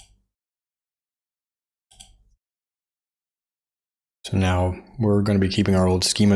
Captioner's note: blank Audio